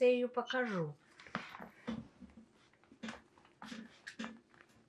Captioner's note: pauses 13 seconds